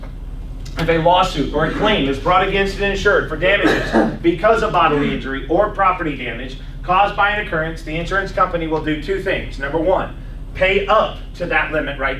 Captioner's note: laughs